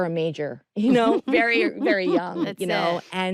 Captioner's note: chuckles